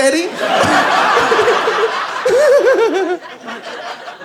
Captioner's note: laughs